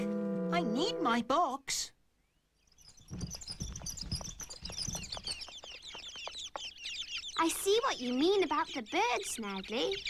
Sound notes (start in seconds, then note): 2.6 squeaks and chirps